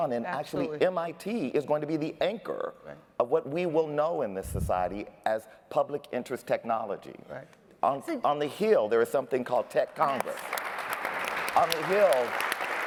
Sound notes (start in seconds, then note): 9.7 applause